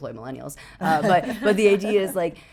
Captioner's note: laughing